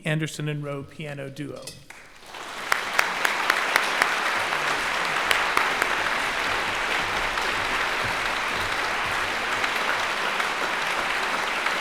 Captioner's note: applause